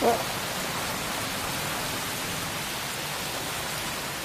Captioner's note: laughing; rain splattering